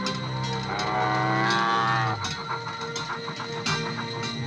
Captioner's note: calf mooing